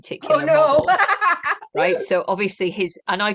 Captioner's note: laughter